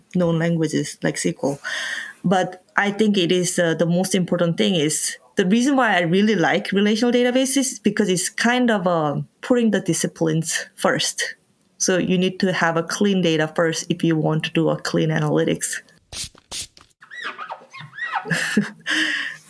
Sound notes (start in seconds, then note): 16.0 spraying; 16.1 cleaner squeaking on windows